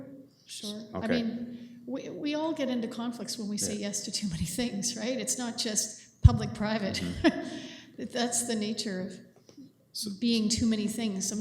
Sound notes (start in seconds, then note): 6.9 laughs